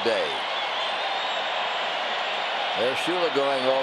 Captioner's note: crowd cheering